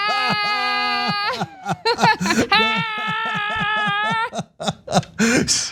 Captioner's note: laugh